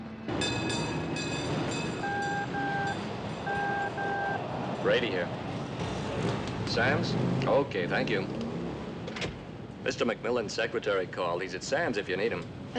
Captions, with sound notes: [tram bell ringing] [walkie-talkie beeping] Brady here. Sam's? Okay. Thank you. Mr. McMillan's secretary called. He's at Sam's if you need him.